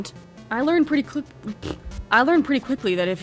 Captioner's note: fart noise